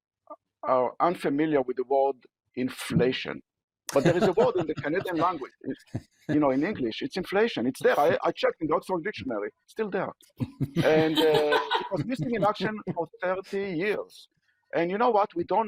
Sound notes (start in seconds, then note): 6.8 laughter